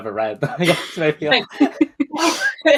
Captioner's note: laughs